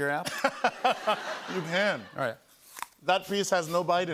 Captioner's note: laughs